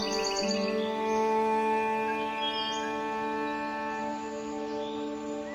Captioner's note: birds chirping